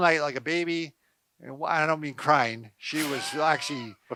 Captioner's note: chuckling